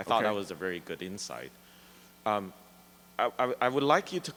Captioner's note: voiceover